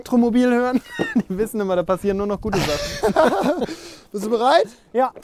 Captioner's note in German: Beide lachen